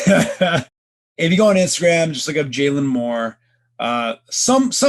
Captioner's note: laughing